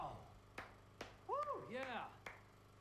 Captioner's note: clapping